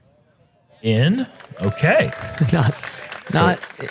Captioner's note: applause